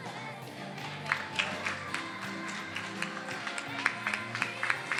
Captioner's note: attendees applauding